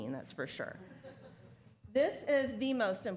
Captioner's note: laughter